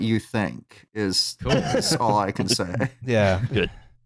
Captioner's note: laughter